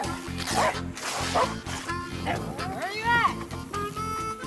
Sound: dog barking

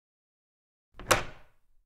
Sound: door opening

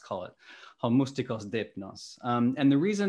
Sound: non-english speech

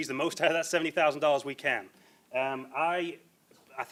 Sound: laughs

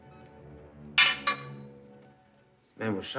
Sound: bullet clangs

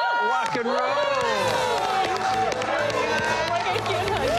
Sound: cheers and applause

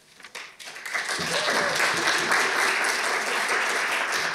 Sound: audience clapping

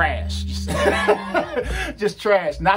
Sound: laughs

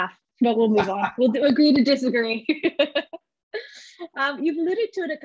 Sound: laughs

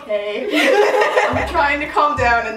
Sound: both laughing

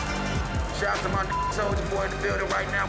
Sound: beep

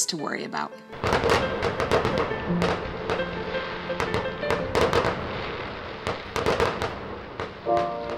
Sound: sounds of fireworks

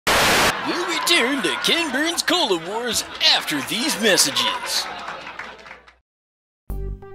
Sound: laugh track & applause in background

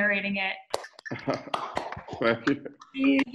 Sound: claps loudly; laughs

